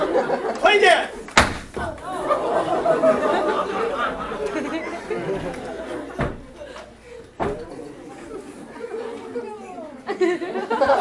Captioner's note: stomps on balloon - popping it